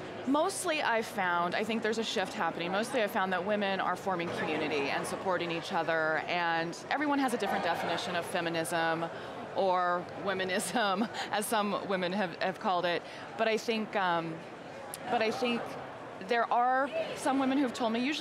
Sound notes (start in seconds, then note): 10.1 laughs